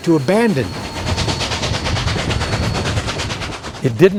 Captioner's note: train chugging